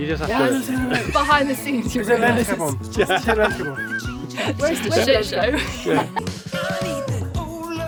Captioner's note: laughing